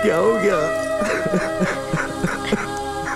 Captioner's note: Crying